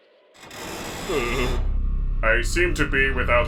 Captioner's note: creaking